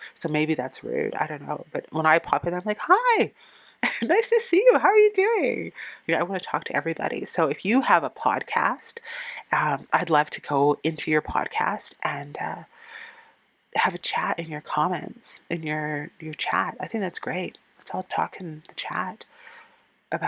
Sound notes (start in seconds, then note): 3.6 laughing